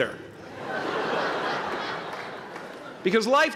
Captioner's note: laughter